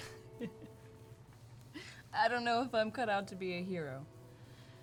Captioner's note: laughs